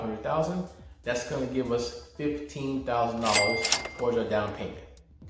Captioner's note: register rings